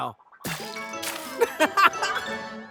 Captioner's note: laughing